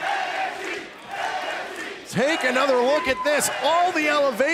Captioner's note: chanting nxt